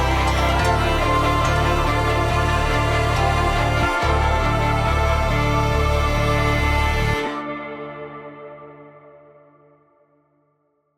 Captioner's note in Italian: Applauso